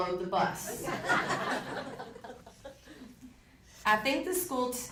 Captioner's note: audience laughing